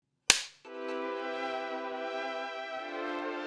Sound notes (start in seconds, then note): 0.3 slate clap; 0.6 intro music